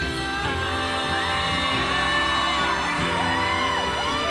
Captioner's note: cheering